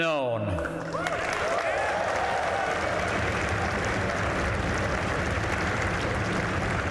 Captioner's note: applause